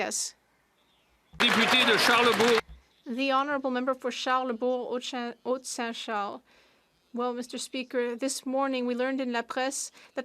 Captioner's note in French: applaudissements